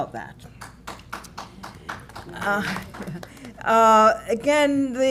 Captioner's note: applause